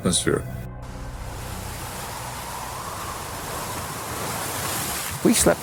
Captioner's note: wind